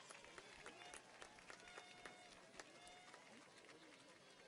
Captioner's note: audience applauds